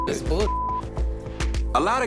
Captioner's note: beep